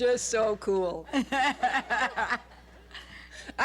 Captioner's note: laughter